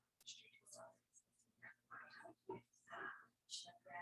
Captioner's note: people chattering indistinctly